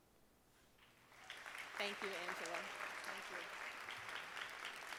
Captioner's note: audience applauding